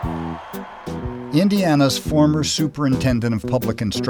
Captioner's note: voiceover